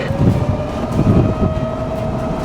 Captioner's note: sirens